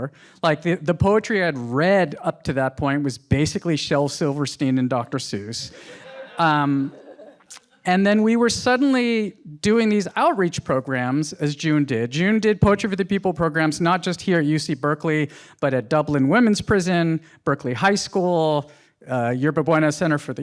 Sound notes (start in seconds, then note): 5.7 audience laughs